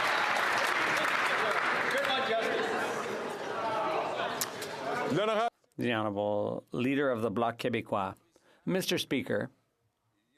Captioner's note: some Applause